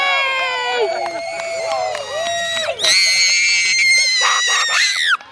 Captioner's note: boy screaming and clapping